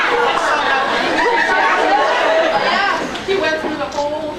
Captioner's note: laughs